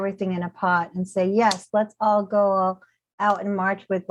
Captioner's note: softly claps